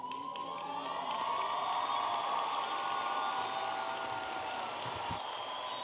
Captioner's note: audience applauding and cheering